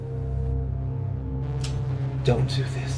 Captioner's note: gun clicks